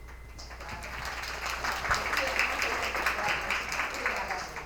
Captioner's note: attendees applauding